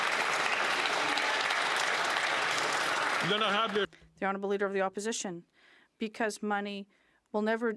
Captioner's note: some Applause